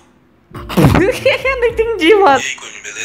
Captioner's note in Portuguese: começa a rir